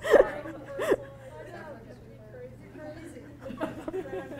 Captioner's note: muffled audience chatter